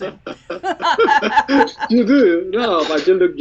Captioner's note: laughs